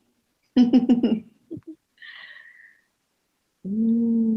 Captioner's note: laughing